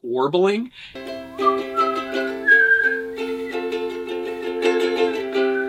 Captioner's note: whistling continues